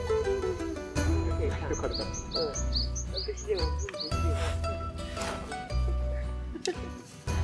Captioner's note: laughs